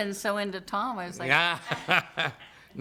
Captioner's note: laughter